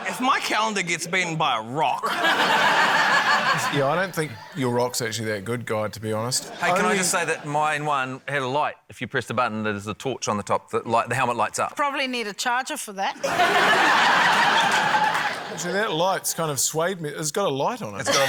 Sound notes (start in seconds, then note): 2.0 laughter; 13.1 laughter